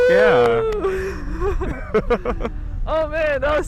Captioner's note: both laughing